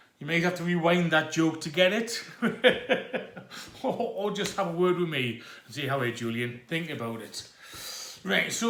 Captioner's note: laughs